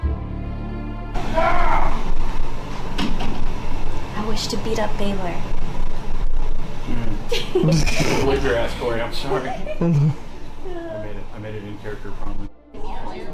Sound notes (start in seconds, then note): 1.5 shouting; 7.3 laughter